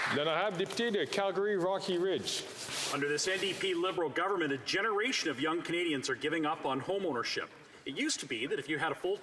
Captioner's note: applause